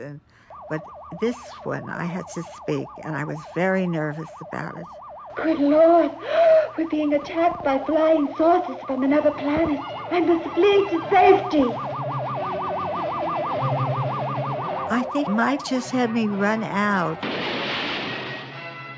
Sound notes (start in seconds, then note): 12.0 high-pitched warbling